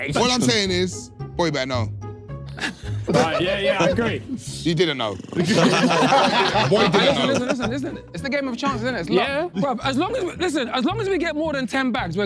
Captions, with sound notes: - All I'm saying is, boy better know. [everyone laughing] - All right, yeah, yeah. I agree. - He didn't know. [everyone laughing] Boy didn't know. - Listen, listen, listen, it's the game of chance, isn't it? It's luck. - Yeah. - Bruv, listen, as long as we get more than 10 bags,